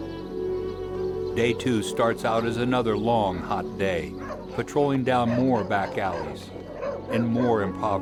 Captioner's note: voiceover